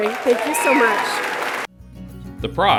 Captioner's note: cheering and applause